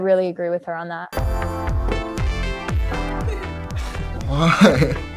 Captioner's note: giggles; upbeat music; chuckles